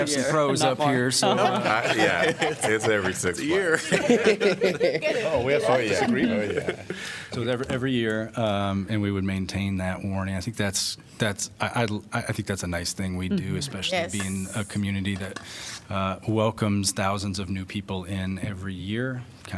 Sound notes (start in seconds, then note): 0.9 laughter